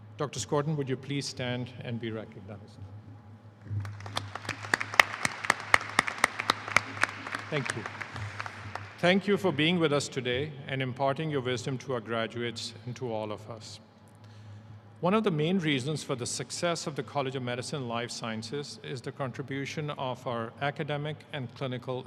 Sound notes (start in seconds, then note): 8.0 applause